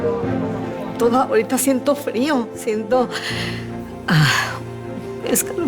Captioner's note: woman speaking Spanish